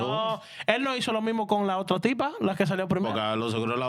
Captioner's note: speaking In Spanish